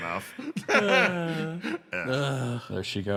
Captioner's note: laugh